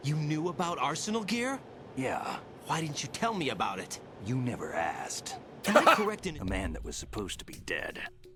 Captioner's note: laughs